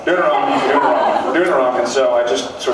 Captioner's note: laughs